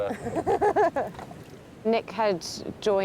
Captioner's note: all laughing